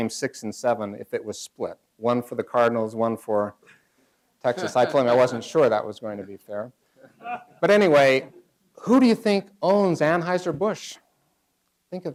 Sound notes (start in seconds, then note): 6.9 laughter